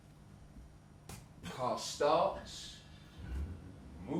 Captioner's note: car drives away; car starting